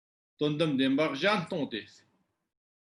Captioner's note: tibetan